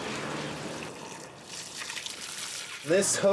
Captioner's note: car drives; hose pours water